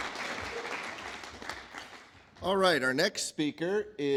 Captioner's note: applause